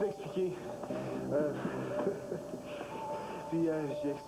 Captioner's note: rires